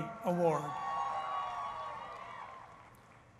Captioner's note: cheering